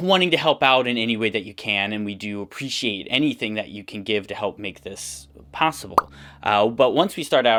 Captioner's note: pop sound